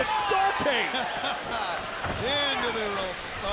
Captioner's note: laughs